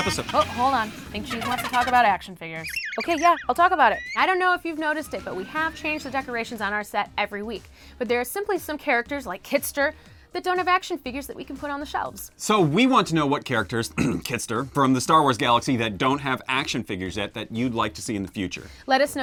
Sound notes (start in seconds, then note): 13.9 cough